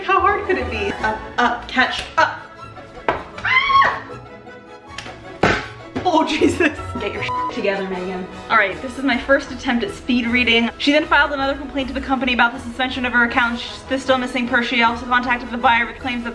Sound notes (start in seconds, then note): 3.5 yelling; 5.4 bang